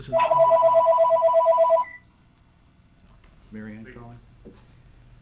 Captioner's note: phone ringing